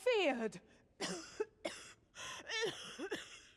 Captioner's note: coughing